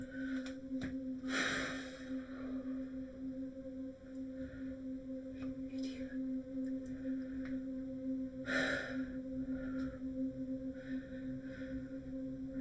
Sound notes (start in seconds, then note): 8.5 Lauren sighs